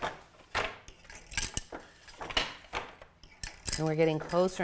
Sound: loom clacking

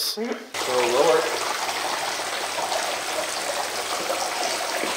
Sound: water running

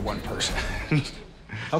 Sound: laughs

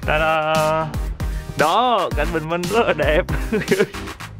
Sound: laugh

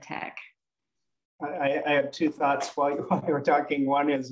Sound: chuckling

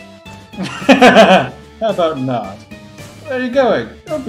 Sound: laughs

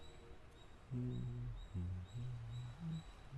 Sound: humming a tune

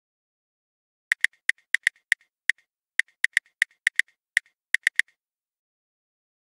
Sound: sound of typing

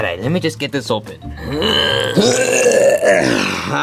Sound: both grunt

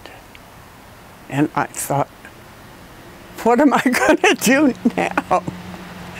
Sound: laugh

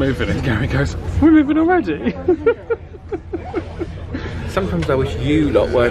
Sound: laughs

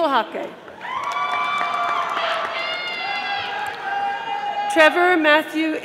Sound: audience applauding

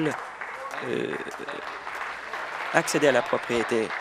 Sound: applause

